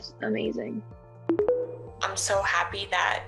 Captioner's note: tones